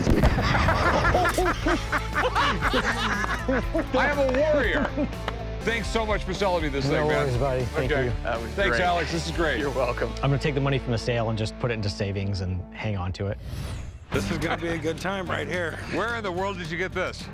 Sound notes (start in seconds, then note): 0.1 laughing; 2.1 laughter